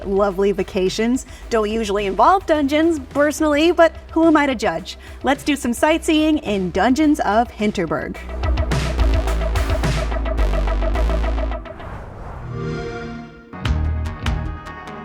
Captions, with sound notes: My lovely vacations don't usually involve dungeons personally, but who am I to judge? Let's do some sightseeing in Dungeons of Hinterberg. [MUSIC FADES OUT] [XBOX SOUND]